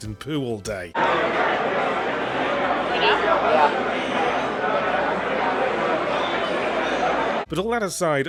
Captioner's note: crowd noise